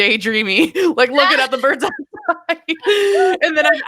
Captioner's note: laughing